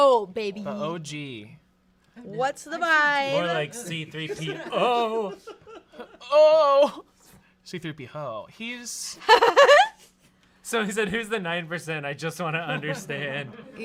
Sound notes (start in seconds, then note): 9.2 laughs